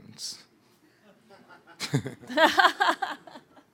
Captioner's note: laughing